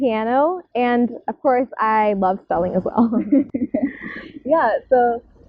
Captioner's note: laugh